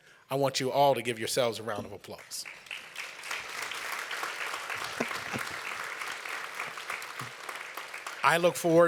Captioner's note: applause